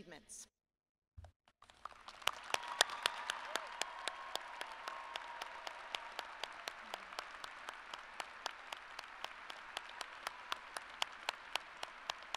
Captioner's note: applause